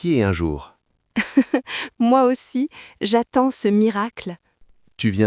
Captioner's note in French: rire